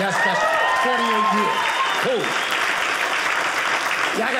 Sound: audience applauding

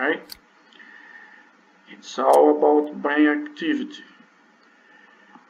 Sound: click; click

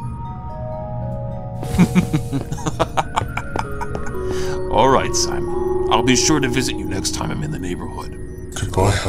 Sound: laughs

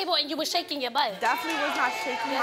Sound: audience clamors

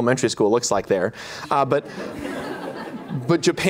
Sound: laughter

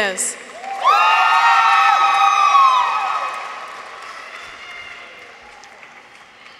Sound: audience applauds; people cheer

